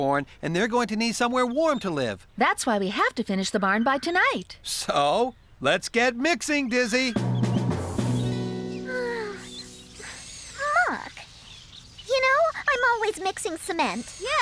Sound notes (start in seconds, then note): 8.8 sighs